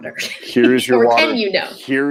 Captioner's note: chuckles